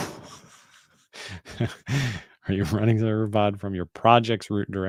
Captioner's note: chuckles